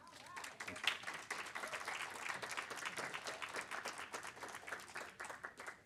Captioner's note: audience applaud